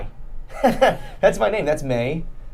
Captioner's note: laughing